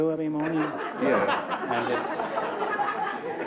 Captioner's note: laughter